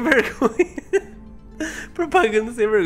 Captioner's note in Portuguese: risos